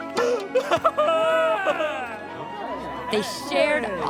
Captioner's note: crying joyfully